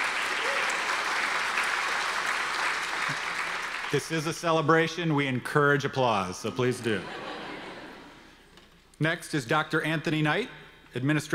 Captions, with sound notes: (audience applause) This is a celebration, we encourage applause. So please do. (audience laughter) Next is Dr. Anthony Knight,